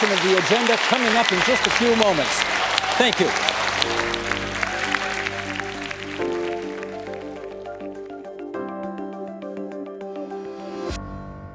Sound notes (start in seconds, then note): 6.0 applause